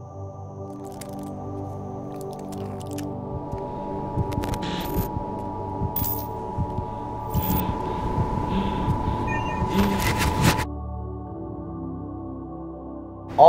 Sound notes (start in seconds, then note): 0.3 ambient music; 3.7 heart beating; 6.3 breathing heavily; 11.1 ambient music